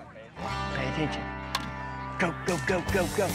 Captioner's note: hits ball; cheering